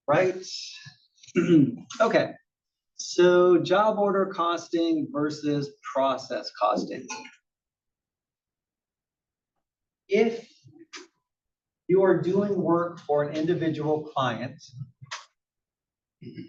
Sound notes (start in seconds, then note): 1.3 cough